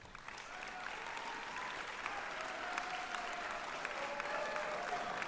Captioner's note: applause